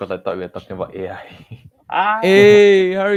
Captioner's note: laughs